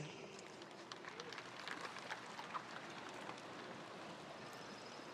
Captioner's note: spectators applauding